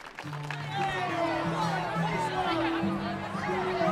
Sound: audience applauding; performers chattering; mellow acoustic guitar music

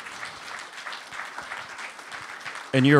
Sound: applause

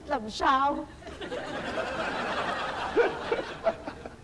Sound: laughter

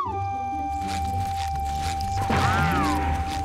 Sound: whistling

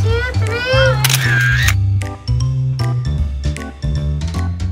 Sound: snapshot clicking

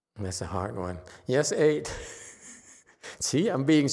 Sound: laughs

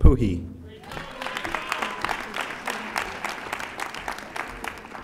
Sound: audience applauding

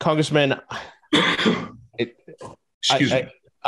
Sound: Tom coughs

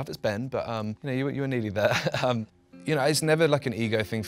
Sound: laughs

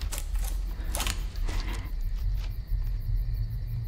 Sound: twigs breaking

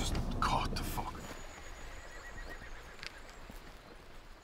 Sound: horses whinnying

